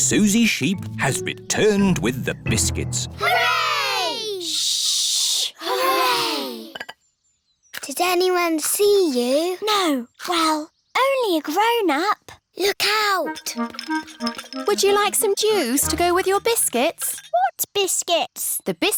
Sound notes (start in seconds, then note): 5.9 quietly